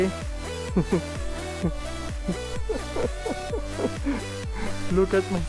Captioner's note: laugh